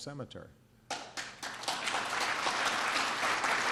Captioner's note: applause